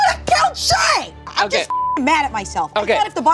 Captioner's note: beep